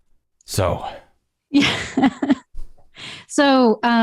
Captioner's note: laughter